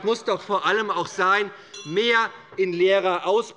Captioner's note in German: Unruhe - Glockenzeichen der Präsidentin